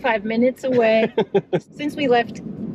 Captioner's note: chuckles